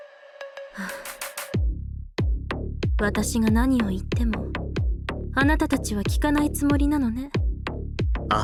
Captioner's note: sigh